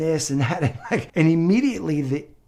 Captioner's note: chuckles